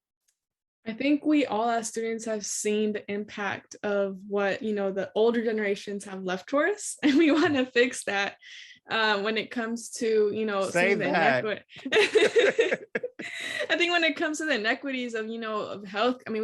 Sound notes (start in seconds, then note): 7.2 laughs; 11.8 laugh